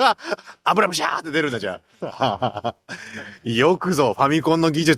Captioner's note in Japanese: 笑い